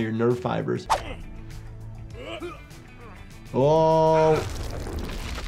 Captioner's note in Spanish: luchadores gruñendo